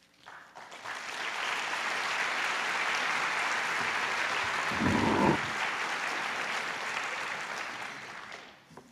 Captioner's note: applause